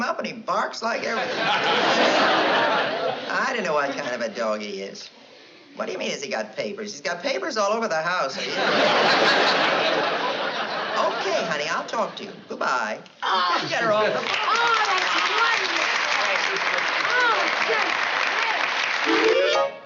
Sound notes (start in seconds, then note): 14.2 applause